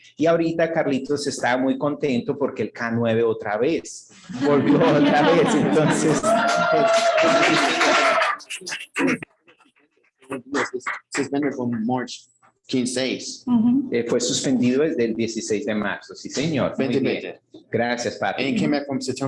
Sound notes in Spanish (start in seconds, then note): 4.3 risas y aplausos; 12.2 hablando inglés